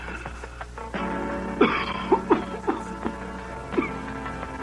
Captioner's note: coughing